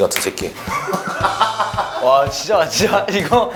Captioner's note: ha ha ha ha ha